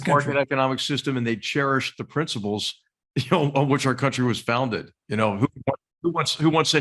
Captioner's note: laugh